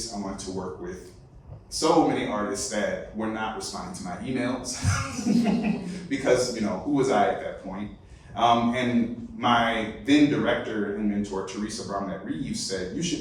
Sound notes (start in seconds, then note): 4.9 laughter